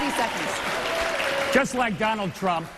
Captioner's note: applause